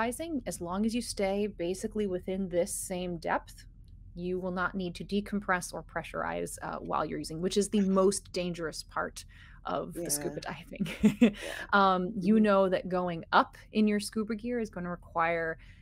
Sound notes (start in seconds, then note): 10.0 person laughing